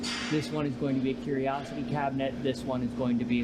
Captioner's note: none